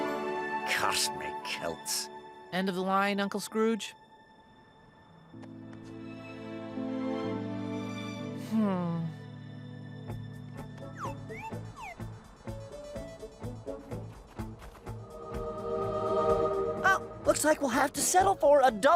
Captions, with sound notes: Curse me kilts. End of the line, Uncle Scrooge? Hmm. [blooping] [heavenly music plays] Well, looks like we'll have to settle